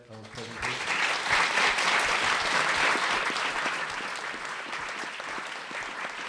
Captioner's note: applause